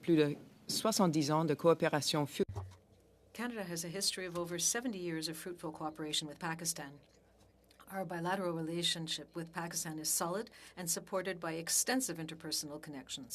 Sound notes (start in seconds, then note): 3.3 speaking French